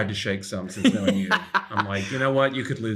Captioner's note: Ben laughing